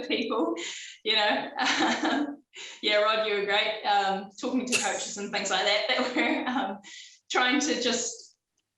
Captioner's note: coughing